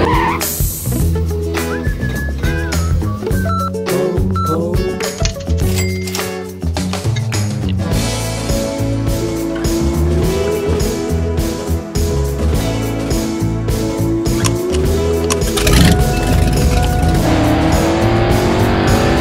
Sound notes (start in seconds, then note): 0.0 tires screech; 3.3 cash register beeps; 15.3 engine revs loudly